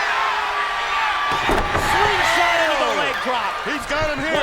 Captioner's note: crowd cheering